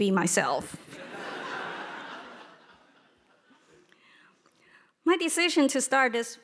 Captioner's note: audience laughing